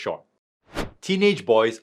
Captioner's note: transition whooshing